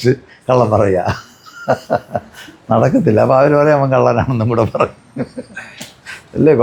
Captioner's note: laughter